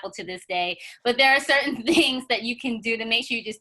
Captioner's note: chuckles